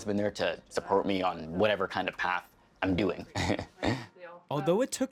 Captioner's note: chuckling